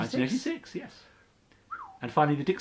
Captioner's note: whistles